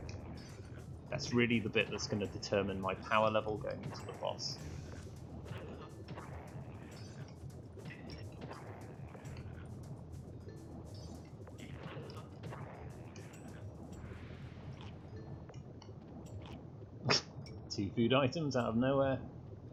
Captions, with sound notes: That's really the bit that's gonna determine my power level going into the boss. *scoff* Two food items out of nowhere!